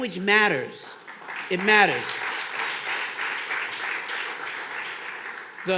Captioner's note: audience clapping